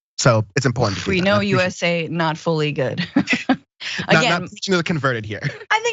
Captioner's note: laugh